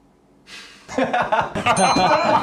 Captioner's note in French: rires